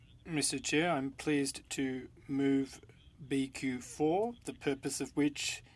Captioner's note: speaking French